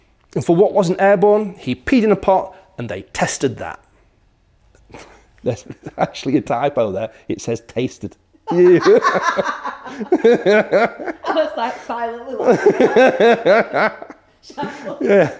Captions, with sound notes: And for what wasn't airborne, he peed in a pot. And they tested that. That's actually a typo there. It says tasted. [laugh] [more laughing] Yeah.